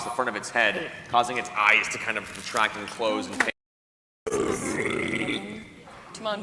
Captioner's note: snarling